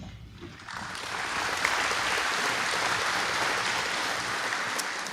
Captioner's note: applause